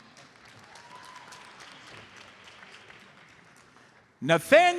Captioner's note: audience applauds